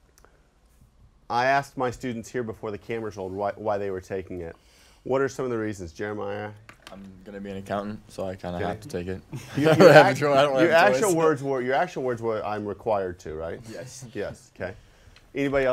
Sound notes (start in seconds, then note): 9.3 laughter